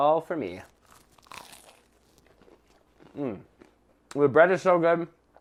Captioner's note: bread crunching